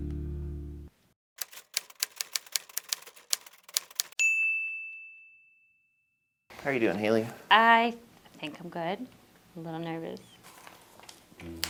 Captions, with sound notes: [Typewriter clicking] -How are you doing, Haley? -I think I'm good. A little nervous.